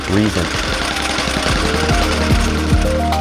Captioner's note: machine noise